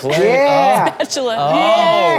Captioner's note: woman laughs